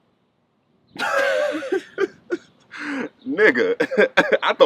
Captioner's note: laughing